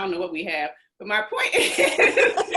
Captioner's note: laughs